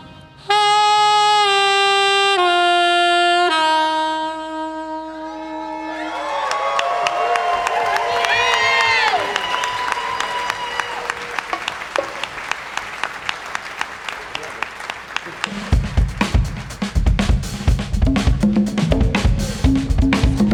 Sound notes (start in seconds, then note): 0.0 playing saxophone; 5.4 applause and cheering